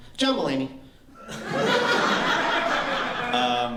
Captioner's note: laughter